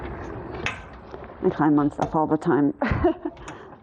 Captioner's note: laughs